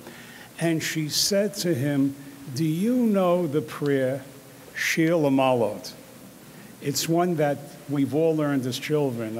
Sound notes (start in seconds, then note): 3.8 speaks in foreign language; 9.2 speaking in foreign language